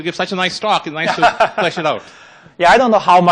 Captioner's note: laughing